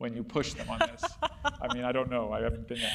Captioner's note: laugh